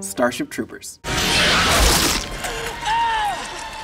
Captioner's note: creature squeals; yells